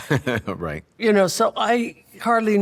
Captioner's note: laughs